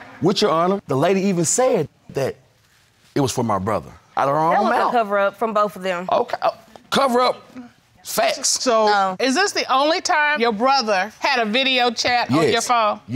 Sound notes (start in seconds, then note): 5.7 stammering